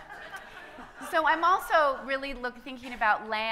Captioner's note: audience laughing